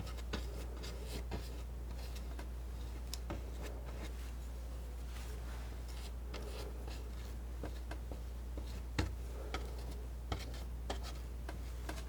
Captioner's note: scratching